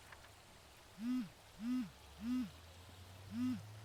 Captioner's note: phone buzzing